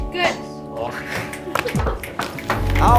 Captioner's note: laughing; hip hop music